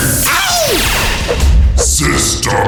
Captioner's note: mario yelps; punch